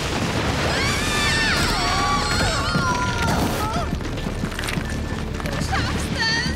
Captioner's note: scream